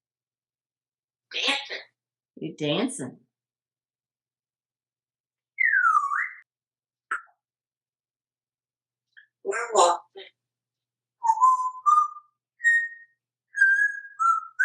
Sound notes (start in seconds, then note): 5.5 whistle; 11.2 whistles